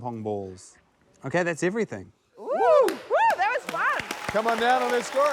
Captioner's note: contestants exclaim; cheers, applause